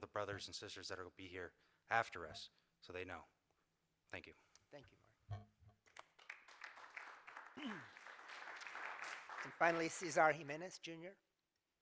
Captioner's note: applause